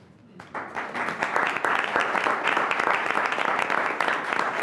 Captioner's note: applause